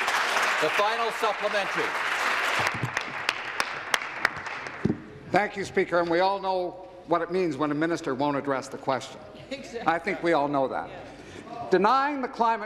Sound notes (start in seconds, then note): 5.0 applause